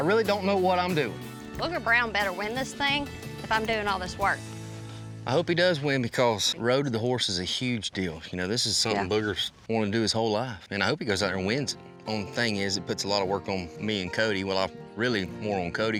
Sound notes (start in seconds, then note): none